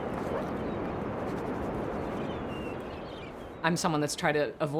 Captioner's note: seagulls calling